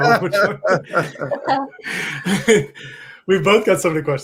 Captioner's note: laughing